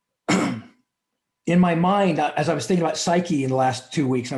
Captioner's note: clears throat